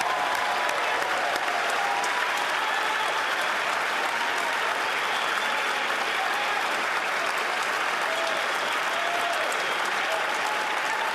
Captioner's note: cheers & Applause